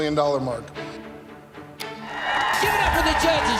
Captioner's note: cheering